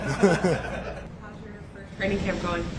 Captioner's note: laugh